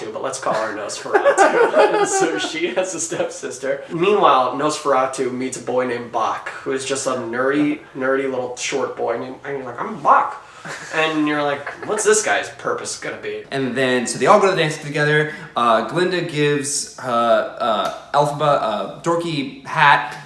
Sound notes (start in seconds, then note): 0.4 laughing